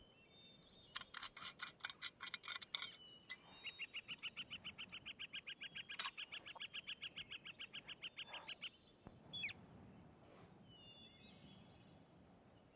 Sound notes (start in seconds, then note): 1.1 flask cap scraping; 3.8 birds chirping